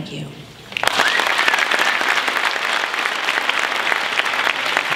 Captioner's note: applause